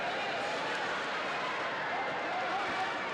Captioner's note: crowd cheering